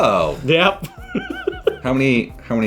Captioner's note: giggling